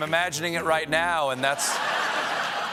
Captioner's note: laughter